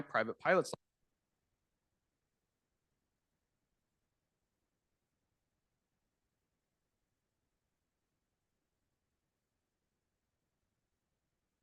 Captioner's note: no audio